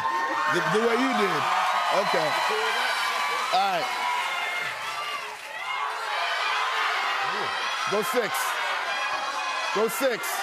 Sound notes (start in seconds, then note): 1.9 cheers and applause; 5.7 audience shouting